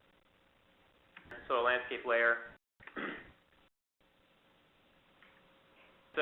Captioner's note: throat clear